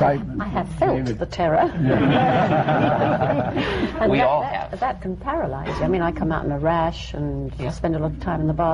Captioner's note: laughter